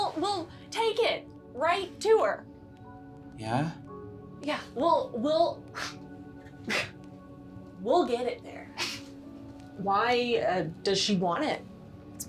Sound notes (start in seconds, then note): 5.6 laughs unconvincingly